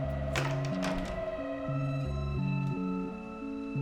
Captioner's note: door clicks